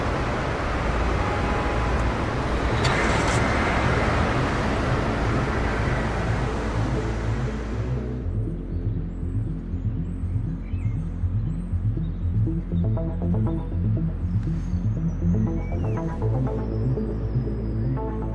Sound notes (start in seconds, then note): 0.1 intense music; 2.7 car starts